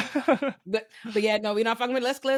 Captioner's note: both laughing